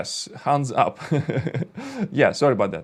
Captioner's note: laughs